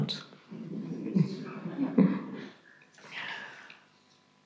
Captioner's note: audience chuckles